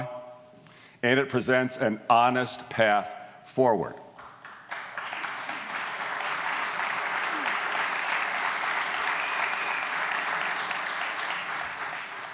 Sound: applause

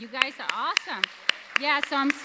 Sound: audience applauds

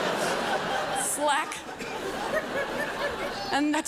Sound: crowd laughs

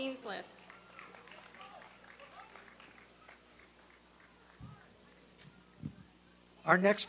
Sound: applause and cheering

